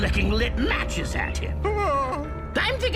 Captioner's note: whimpers